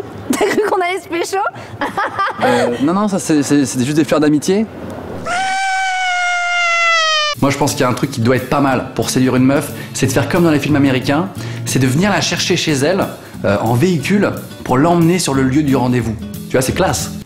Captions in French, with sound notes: T'as cru qu'on allait se pécho? *rires* Euh nan nan... ça c'est, c'est, c'était juste des fleurs d'amitié. *pleurs de bébé* Moi j'pense qu'il y a un truc qui doit être pas mal pour séduire une meuf, c'est de faire comme dans les films américains : C'est de venir la chercher chez elle euh, en véhicule, pour l'emmener sur le lieu du rendez-vous. Tu vois, c'est classe !